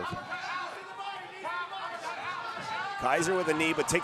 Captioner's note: audience cheering